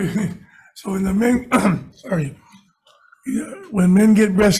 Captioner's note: coughs